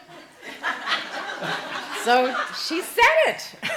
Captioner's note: laughing